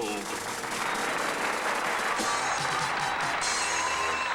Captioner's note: cheers and applause